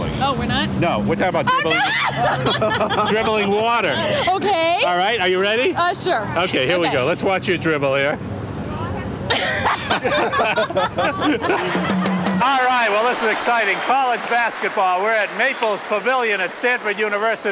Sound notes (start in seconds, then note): 1.4 loud laughing; 9.3 laughing